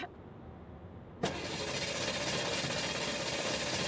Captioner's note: engine sputtering